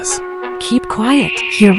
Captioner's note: whispering